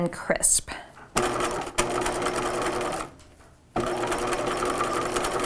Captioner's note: machine whirring